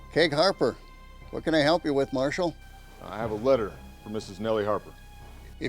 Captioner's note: none